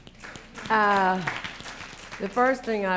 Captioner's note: applause